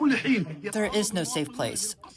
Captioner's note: through translator